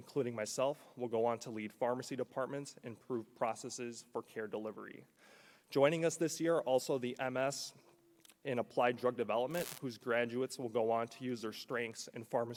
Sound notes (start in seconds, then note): none